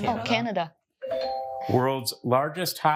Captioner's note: bell dings